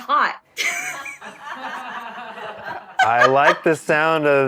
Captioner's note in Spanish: risas